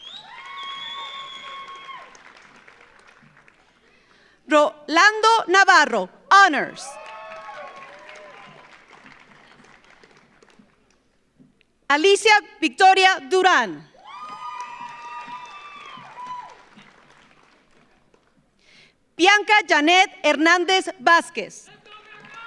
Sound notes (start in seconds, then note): 0.0 audience cheers; 0.0 audience applauds; 6.8 audience cheers; 6.9 audience applauds; 13.9 audience cheers; 14.0 audience applauds; 21.7 audience applauds; 21.7 audience cheers